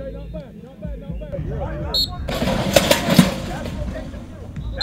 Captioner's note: whistle blowing; whistle blowing